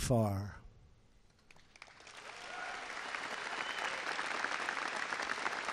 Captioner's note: applause